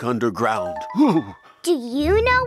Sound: dad shudders

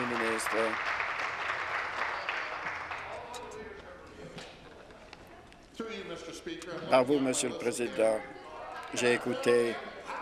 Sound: applause

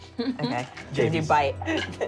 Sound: laughing

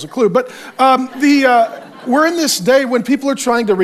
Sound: congregation laughs

